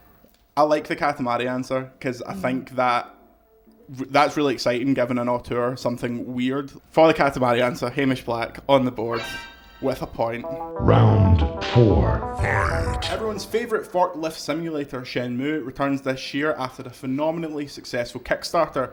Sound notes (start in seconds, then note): 10.4 winning noise